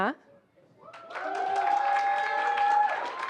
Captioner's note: applause